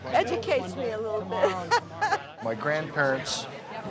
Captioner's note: laughs